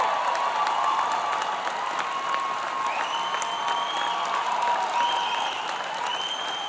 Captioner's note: applause